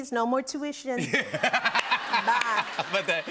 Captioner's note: laughter